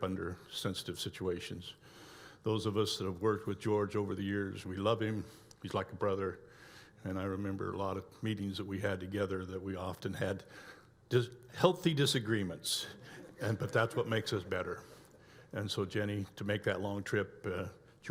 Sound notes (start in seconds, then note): 12.9 audience laughs